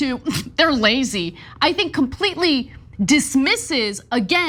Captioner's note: laugh